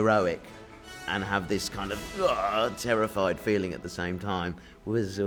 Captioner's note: groans